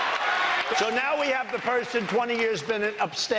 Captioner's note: applause